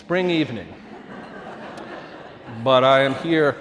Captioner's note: audience laughing